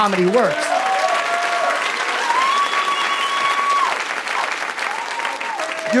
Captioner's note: audience cheers and applauds